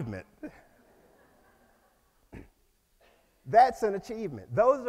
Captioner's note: audience laughs